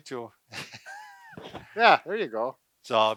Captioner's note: both laugh